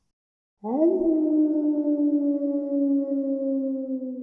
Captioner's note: wolf howling